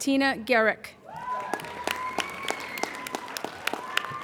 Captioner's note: applauding